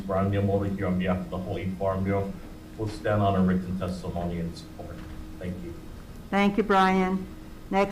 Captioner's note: none